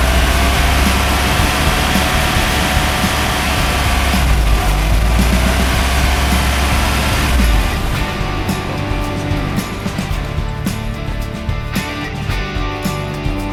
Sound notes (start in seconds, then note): 8.2 motor cuts off again